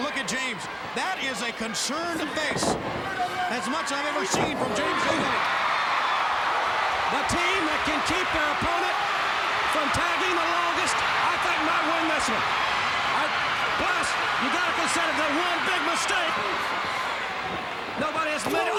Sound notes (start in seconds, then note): 5.7 crowd cheering